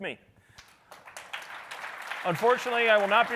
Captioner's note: audience applauding